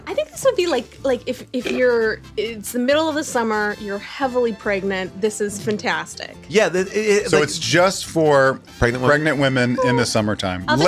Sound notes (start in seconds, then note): 6.9 stutters